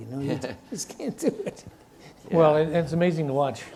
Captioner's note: chuckles